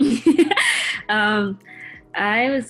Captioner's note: laughs